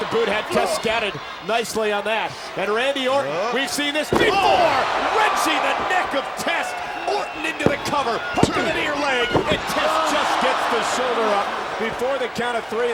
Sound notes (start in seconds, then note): 4.1 person thudding; 4.2 crowd cheering